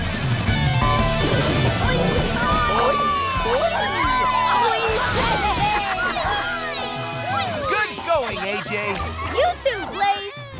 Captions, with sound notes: Boingy boing! [cheering] -Good going AJ! -You too Blaze.